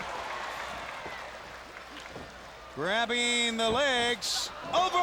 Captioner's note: applause